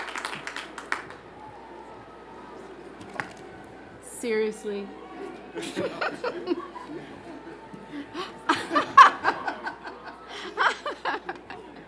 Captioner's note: cheers and Applause